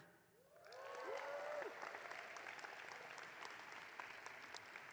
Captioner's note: audience clapping